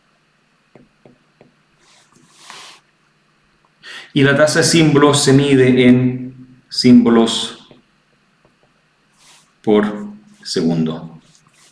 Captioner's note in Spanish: resoplido